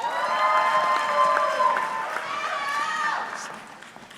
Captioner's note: audience cheering